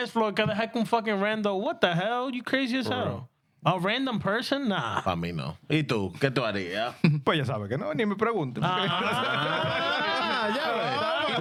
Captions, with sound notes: floor, can I fucking random, what the hell? You crazy as hell. A random person, nah. (Speaking In Spanish) (Laughing)